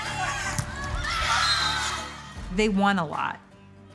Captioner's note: athletes shouting; whistle blowing